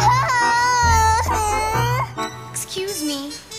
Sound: cries

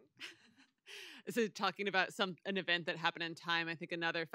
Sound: chuckles

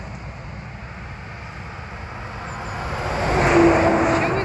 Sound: engine revving

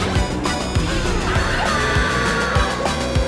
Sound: screaming

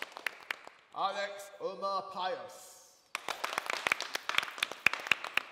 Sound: applause

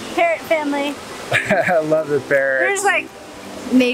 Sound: laughs

